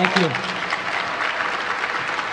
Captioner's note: applause